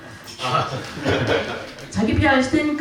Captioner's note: laughs